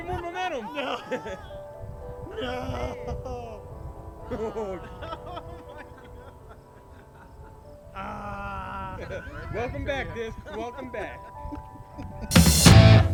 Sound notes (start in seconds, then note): 0.0 laughing; 8.0 groaning